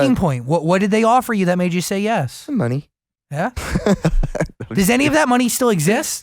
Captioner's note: laughs